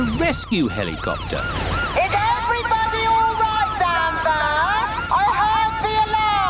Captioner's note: over megaphone